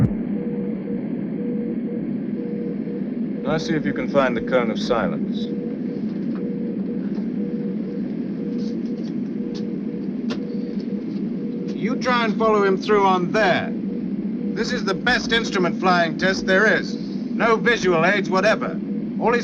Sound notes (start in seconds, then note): 1.4 machine beeping